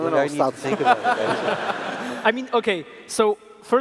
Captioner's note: laughs